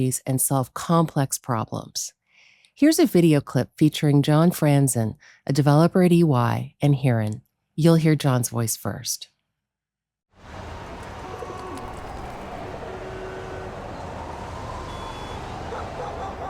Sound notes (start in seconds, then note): 10.4 distant traffic noises